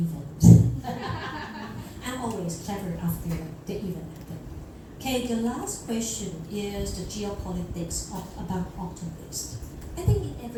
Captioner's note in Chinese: 众人大笑